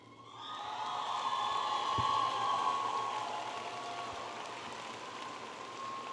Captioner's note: audience applauding and cheering